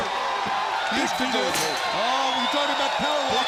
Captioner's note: crowd cheering